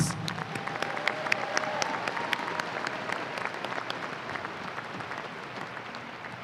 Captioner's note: applause and cheers